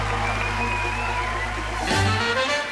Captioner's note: cheering